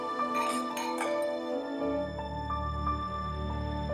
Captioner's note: clink